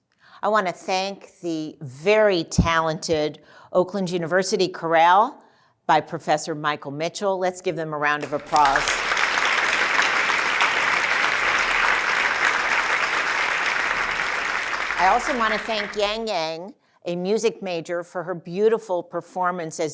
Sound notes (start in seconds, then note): 8.2 applause